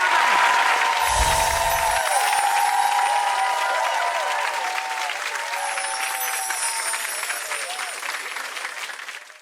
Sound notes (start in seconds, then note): 1.6 applause and cheering